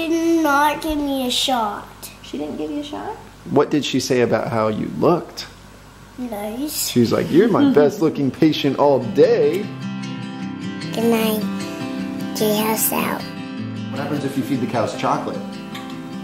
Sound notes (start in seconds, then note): 7.0 soft laugh; 10.8 smooth acoustic music